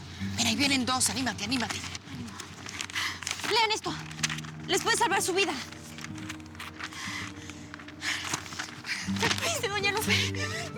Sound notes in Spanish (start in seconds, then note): 3.6 voz muy tajante